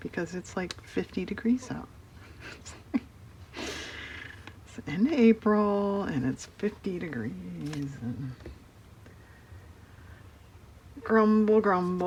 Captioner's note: laughs